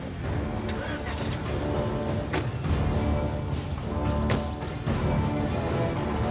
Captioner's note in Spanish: ruido del motor del auto; portazos